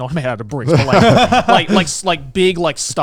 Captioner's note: both laughing